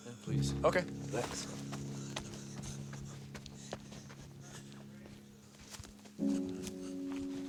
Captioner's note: footsteps receding